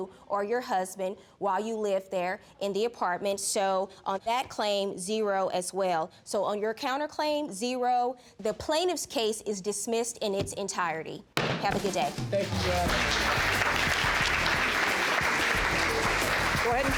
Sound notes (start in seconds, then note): 11.4 gavel banging; 12.1 audience clapping